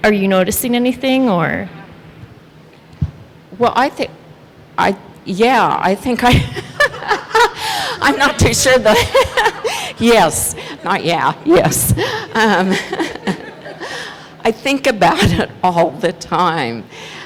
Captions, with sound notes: Are you noticing anything, or? - Well, I think I yeah, (laughs) I'm not too sure but yes, not yeah, yes. (laughs) I think about it all the time.